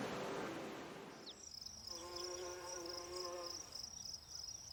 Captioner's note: bee buzzes